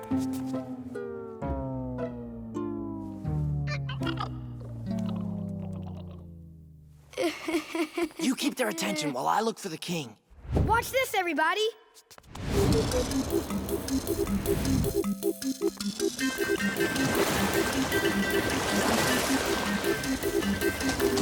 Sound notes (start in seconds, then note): 3.9 chittering; 7.1 chuckles; 12.6 circus music playing